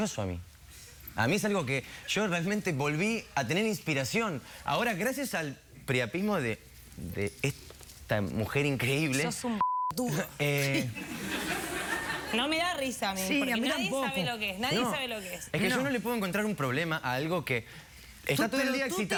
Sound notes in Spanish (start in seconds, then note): 10.8 risas